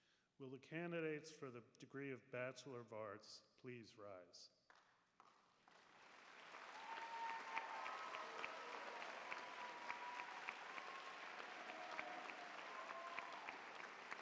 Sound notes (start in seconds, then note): 5.2 applause